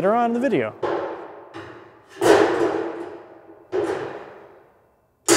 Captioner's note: metal clanking